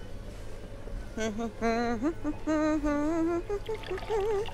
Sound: humming

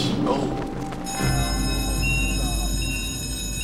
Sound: alarm ringing

